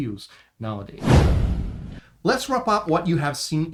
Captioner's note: transition whooshes